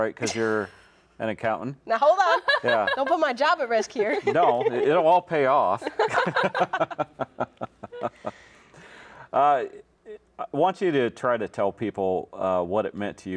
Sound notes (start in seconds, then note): 2.0 laughs; 5.8 all laugh